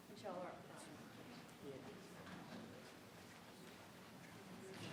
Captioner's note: group quietly conversing